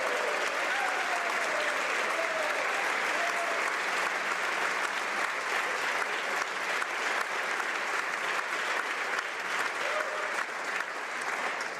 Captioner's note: applause